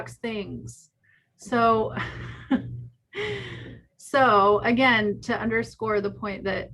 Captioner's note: laughs